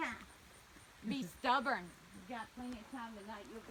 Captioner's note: chatter